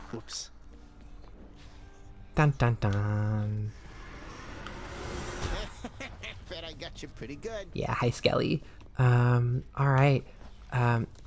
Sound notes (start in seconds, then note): 3.6 magic swirling sound